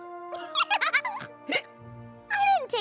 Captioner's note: hiccups, laughs; hiccups